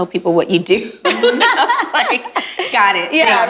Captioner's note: group laughs